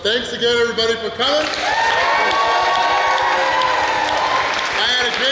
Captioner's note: cheering & Clapping